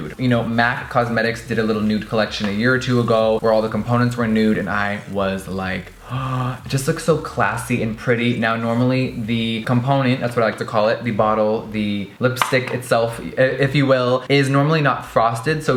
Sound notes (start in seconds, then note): 6.0 deep intake of breath